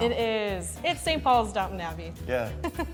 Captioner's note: John chuckles; chuckles